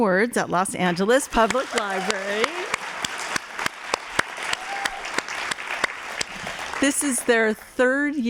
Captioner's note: applause